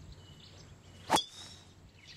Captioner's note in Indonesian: smack